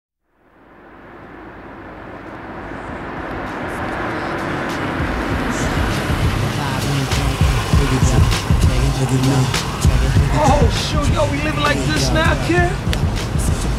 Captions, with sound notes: [CAR PULLING UP] [MUSIC PLAYING ON RADIO] - OH, SHOOT, WE LIVING LIKE THIS NOW, KID?